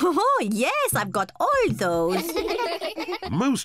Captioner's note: kids giggling